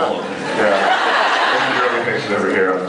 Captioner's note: laughs